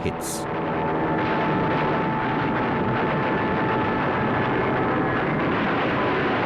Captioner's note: plane engine roars